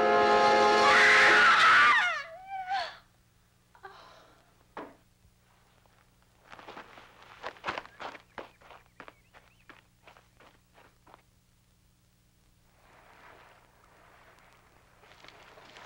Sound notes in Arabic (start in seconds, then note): 0.7 صراخ; 12.7 حفيف الماء